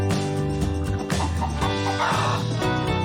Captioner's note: chicken clucking; upbeat music